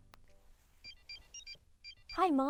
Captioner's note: phone beeping